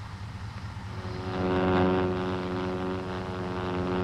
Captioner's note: airplane buzzing